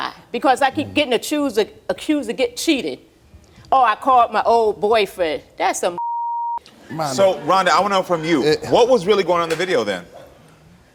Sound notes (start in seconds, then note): 6.0 beep